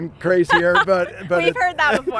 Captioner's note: interviewer laughs